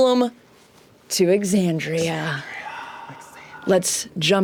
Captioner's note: whispers